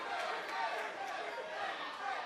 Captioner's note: fans chanting